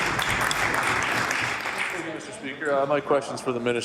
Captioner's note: applause